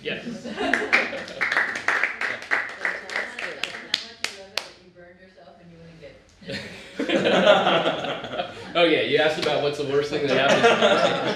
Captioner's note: applaud